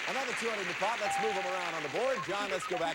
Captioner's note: audience applauding